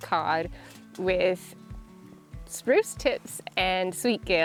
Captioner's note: gas hissing